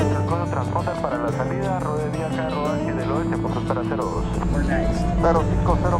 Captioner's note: speaking foreign Language